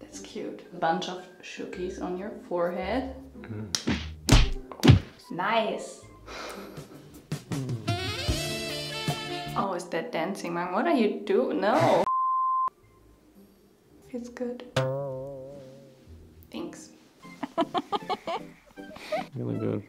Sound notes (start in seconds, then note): 4.6 hand taps; 7.5 saxophone music; 12.1 beep; 14.7 spring boingss; 17.4 laughs